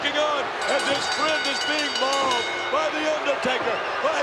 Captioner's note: bell rings